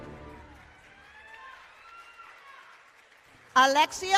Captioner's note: applause